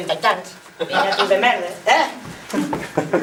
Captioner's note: laughs